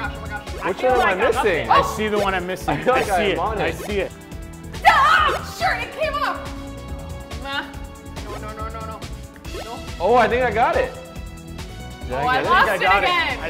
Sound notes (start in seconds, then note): 4.7 yells